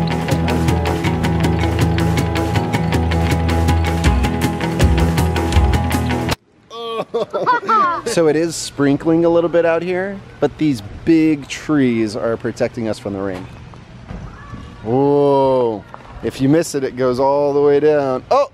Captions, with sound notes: (laughs) - So it is sprinkling a little bit out here, but these big trees are protecting us from the rain. Whoa, if you miss it, it goes all the way down.